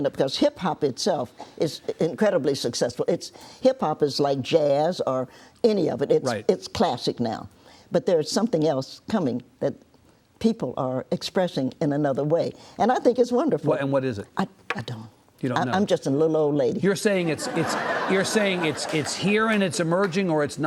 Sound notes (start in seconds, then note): 17.2 audience laughs